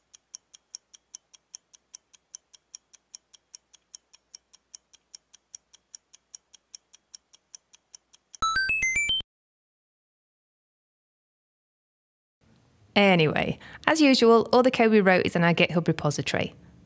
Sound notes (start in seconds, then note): 8.4 1up sound